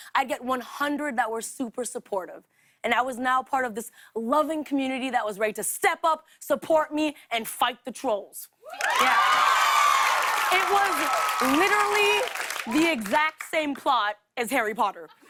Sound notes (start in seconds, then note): 8.6 cheers and applause; 15.0 laughter